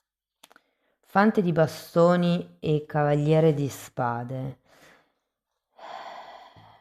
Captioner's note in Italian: sospiri